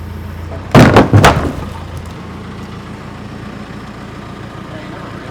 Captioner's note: wood hitting the ground